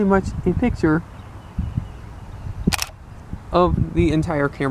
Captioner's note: shutter sound